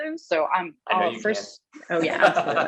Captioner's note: laughs